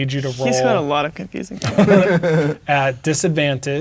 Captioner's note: players laughing